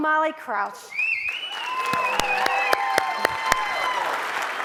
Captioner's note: audience cheers